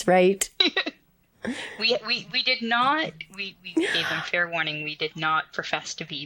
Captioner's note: laughs